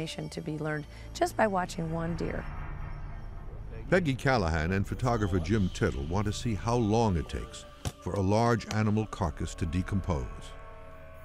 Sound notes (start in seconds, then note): none